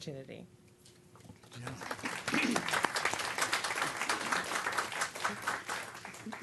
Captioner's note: applause